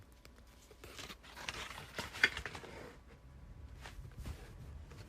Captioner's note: twine untying and paper sounds